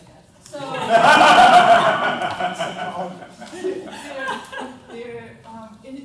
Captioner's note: laughter